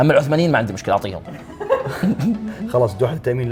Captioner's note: laughter